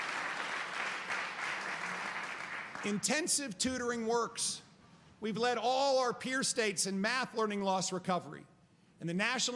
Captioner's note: applause